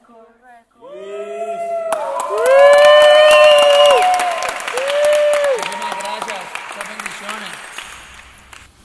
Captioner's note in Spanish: aplausos